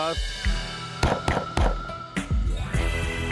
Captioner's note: gunshot